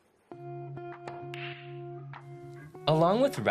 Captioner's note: balls clacking